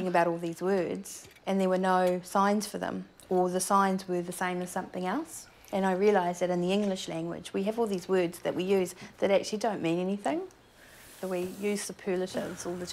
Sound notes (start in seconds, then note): none